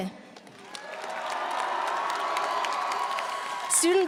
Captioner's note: audience applauding; audience cheering